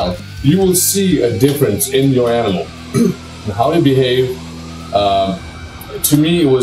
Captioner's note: clears throat